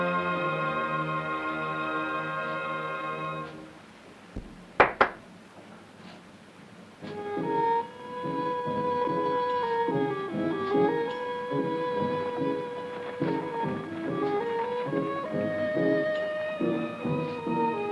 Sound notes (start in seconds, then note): 4.7 claps hands; 7.0 exotic music